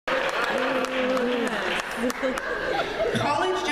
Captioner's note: laughter